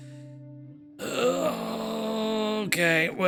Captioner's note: groans